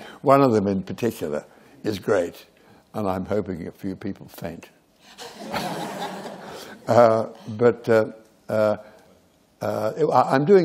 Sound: laughter

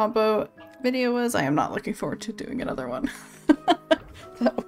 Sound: laughs

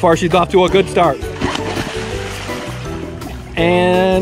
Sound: water splashing

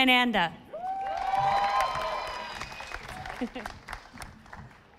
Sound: audience applauding

